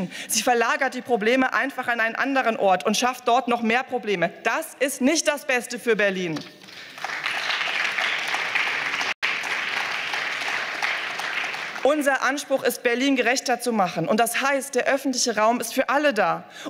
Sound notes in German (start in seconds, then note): 6.5 Beifall